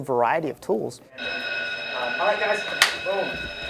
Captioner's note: bell rings